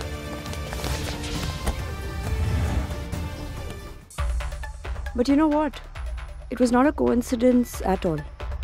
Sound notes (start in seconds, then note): 1.7 Door closing